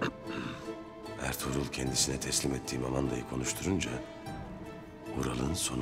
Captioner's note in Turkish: Ertuğrul iç ses